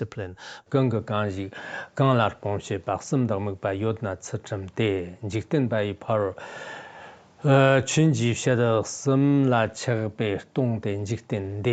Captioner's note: giving oral transmission in Tibetan